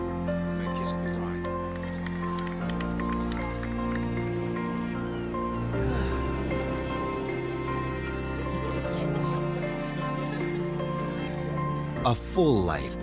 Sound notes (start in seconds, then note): 0.9 minister speaking, clapping; 3.6 sigh; 7.7 people talking